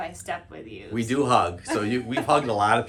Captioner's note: laughter